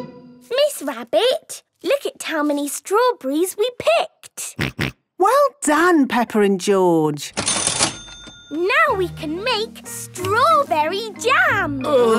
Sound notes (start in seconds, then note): 7.4 till rings